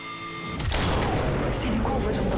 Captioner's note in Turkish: Kurşun sesi